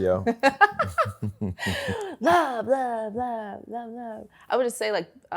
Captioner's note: laughs